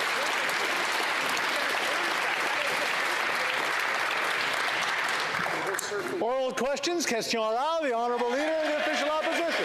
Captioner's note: applause